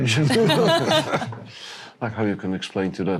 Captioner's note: laughter